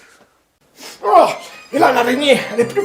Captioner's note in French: Voix de drogué